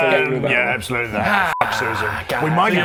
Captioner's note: happy sigh